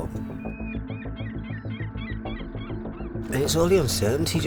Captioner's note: seagulls squawking